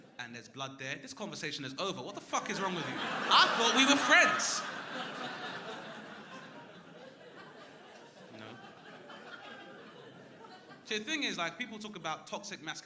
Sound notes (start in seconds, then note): 6.6 crowd laughing